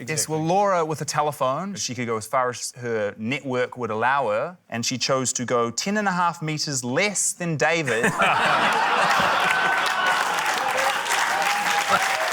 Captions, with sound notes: - Yeah, well, Laura with a telephone, she could go as far as her network would allow her. And she chose to go 10.5m less than David. (LAUGHTER) (APPLAUSE)